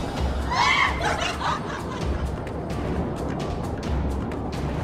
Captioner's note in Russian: истерично смеется